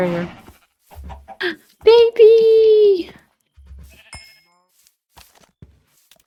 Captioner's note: gasp